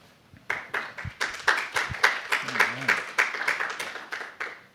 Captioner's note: applause